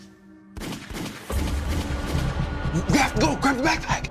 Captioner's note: gun firing